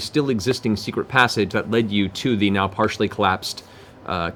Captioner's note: none